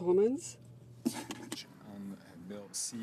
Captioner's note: speaking French